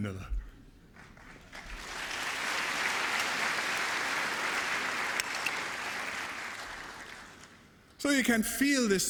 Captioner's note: applause